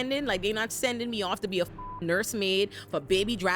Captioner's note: beep